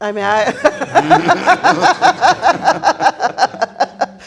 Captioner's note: all laughing